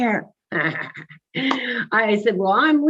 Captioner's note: laughing